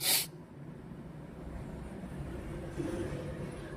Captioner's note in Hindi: नाक से की जाने वाली आवाज़